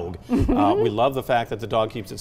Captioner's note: laughs